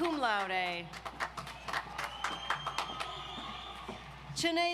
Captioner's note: audience applauds